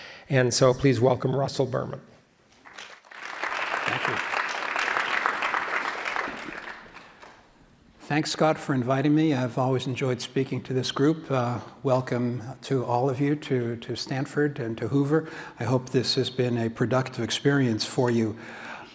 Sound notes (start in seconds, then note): 5.4 applause